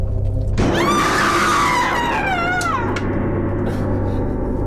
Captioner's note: woman screams